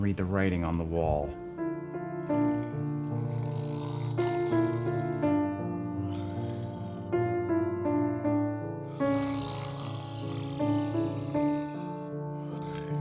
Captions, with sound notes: I can read the writing on the wall. [somber music] [Dr. Strauss snoring]